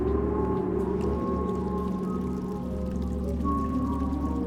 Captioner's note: fountain trickling